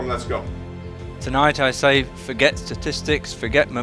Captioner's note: voiceover